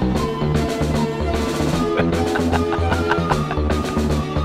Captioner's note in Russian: смеётся